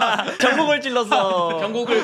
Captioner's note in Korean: 웃음